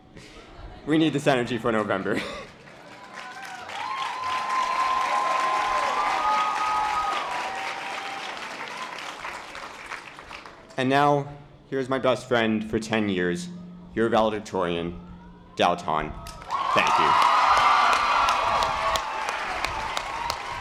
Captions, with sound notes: We need this energy for November. (chuckles) (audience applause) Now, here's my best friend for 10 years your valedictorian, Dao Ton, thank you. (audience applause)